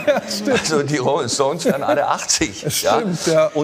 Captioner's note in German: Lachen